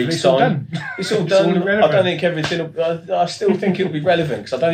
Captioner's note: laughs